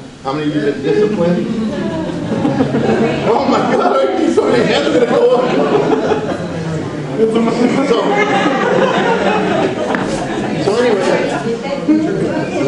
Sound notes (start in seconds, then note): 2.0 audience laughs